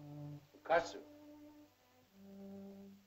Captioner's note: Tumak speaks in caveman language; sentimental music